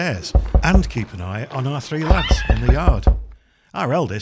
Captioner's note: knock, knock